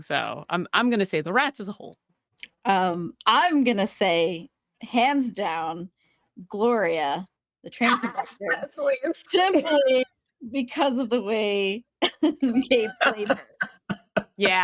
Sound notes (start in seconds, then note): 7.8 laughing; 12.0 laughing